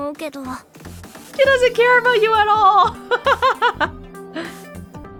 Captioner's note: chuckles